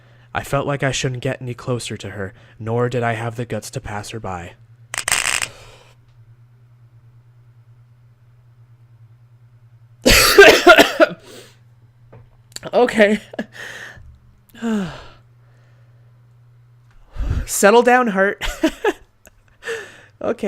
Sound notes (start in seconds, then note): 6.1 gasps and holds breath; 12.8 coughs